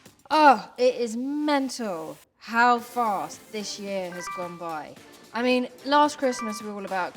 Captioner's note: notification sound; notification sound